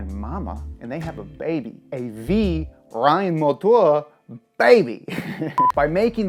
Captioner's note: speaks in foreign language